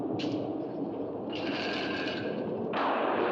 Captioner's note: wind howling; portcullis rattles; loud thunder